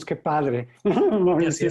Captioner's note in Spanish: ríe